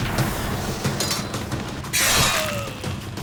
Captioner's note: battle sounds